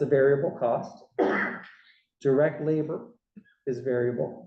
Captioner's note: cough